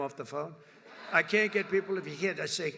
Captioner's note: laughter